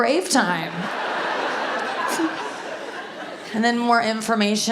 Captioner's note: audience laughs